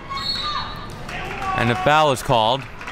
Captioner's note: whistle blows